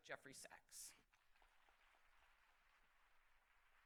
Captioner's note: applause